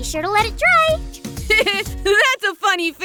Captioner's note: chuckles